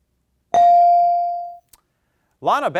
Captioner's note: bell dings